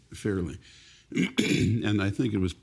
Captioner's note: clearing throat